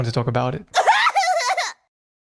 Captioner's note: Keiichirou cries like a baby